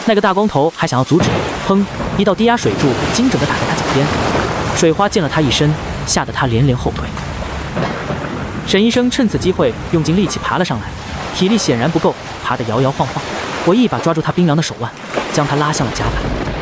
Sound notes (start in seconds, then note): 1.8 bang!